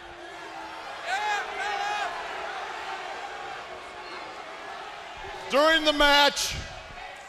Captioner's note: crowd cheering